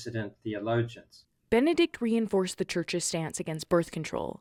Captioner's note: voice-over